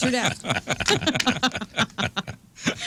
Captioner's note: laughing